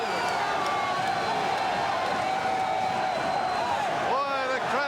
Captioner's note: crowd cheering